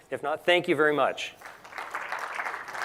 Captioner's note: applause